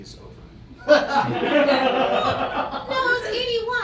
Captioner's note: audience laughs